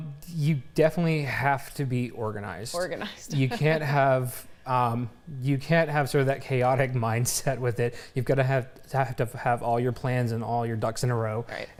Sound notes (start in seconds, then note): 3.3 laughter